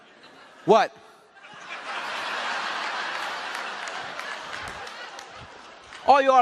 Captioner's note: laughing audience